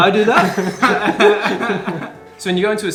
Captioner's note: giggles